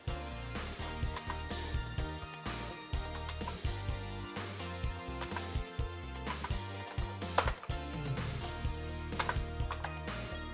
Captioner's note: IBM Model M clicky keyboard typing